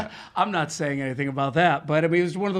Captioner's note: laughing